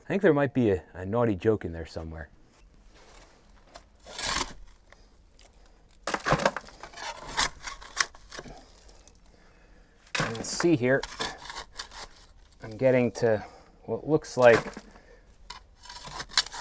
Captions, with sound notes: I think there might be a naughty joke in there somewhere. (scraping) You can see here, I'm getting to what looks like